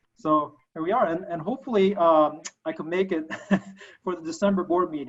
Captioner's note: laughing